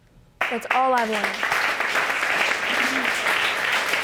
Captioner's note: audience applauding